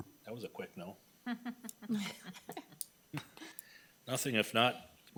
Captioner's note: laughing